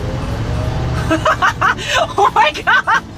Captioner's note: laughs